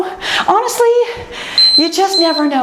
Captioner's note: timer beeps